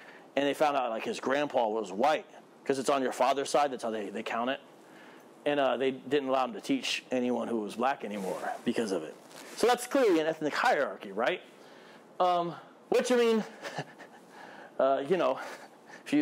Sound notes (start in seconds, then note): 13.5 laugh